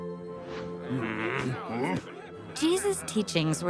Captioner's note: grumbling